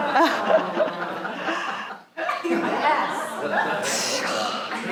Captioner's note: audience laughing